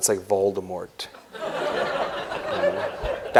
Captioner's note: laughter